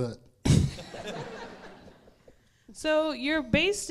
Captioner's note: crowd laughs